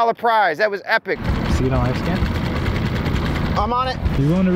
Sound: man speaks in low tones

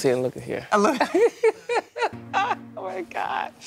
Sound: laughter

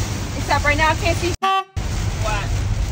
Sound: horn honks

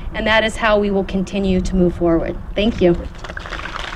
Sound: applause

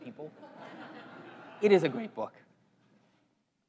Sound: laugh

